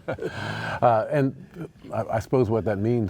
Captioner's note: laughs